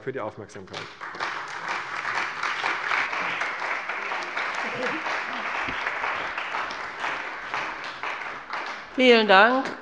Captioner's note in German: Beifall bei der CDU und dem BÜNDNIS 90/DIE GRÜNEN